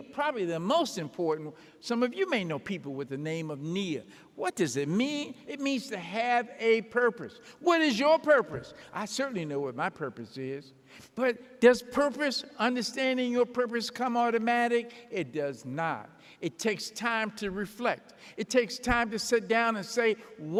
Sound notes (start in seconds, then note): none